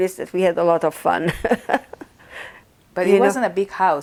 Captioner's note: laughing